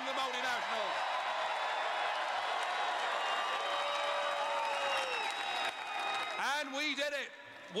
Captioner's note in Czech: Potlesk